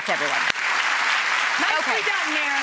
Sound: audience applauds

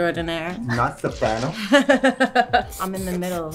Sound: chuckling

